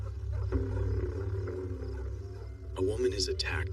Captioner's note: dog barng